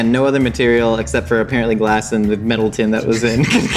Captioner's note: laughs